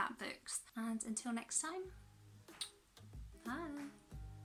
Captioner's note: kiss